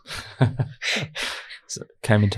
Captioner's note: laughing